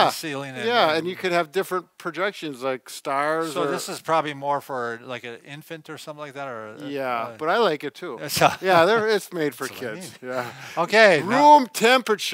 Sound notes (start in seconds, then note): 8.3 laughs; 10.6 laughs